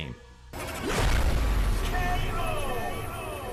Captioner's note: K.O. thudding